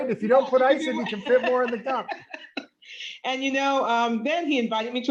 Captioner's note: laughter